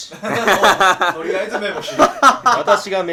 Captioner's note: laughing